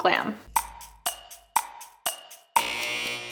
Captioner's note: clock ticking; buzzer beeps